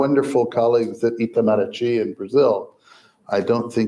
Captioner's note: foreign language